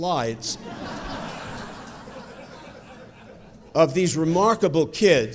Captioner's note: audience chuckling